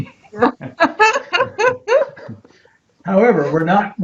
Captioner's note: both laughing